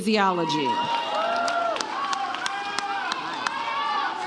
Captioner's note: audience cheers